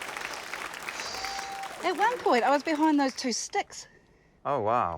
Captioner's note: huffs